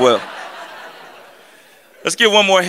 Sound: laughter

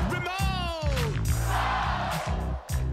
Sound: crowd

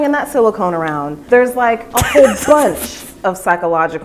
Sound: laughing

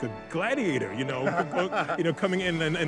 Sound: interviewer laughs

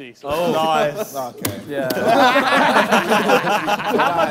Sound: laughter

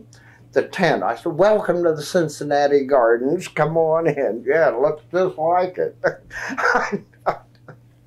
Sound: laughs

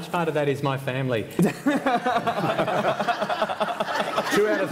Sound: laughter

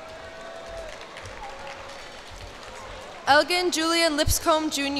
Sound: cheers and applause

